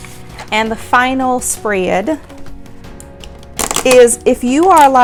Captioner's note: plastic clattering